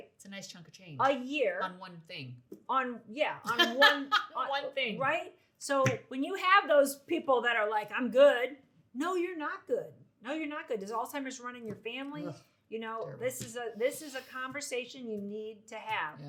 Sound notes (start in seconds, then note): 3.4 laughs